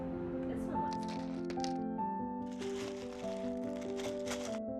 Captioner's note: rustling